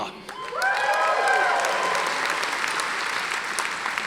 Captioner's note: audience applauding